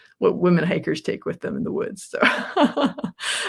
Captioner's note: laughs